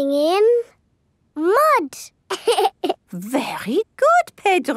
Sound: laughs

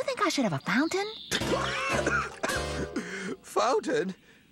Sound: coughs

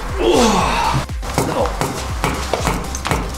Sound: grunts; banging

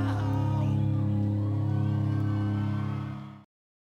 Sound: crowd cheering

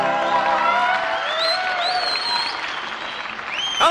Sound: cheers, applause

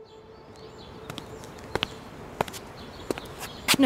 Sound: birds chirping, footsteps

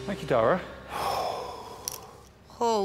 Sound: sighs

